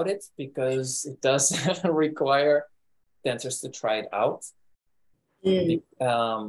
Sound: laughs

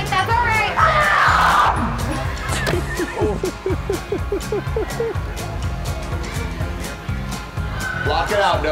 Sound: laugh

